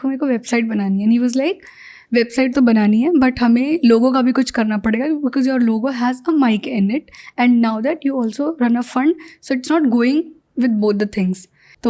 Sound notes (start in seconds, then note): 5.2 speaks in Hindi